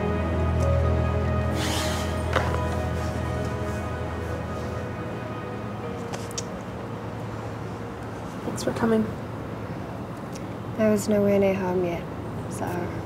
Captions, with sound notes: (Esther sighs) (shoe clacks) - Thanks for coming. - I was no where near home yet, so.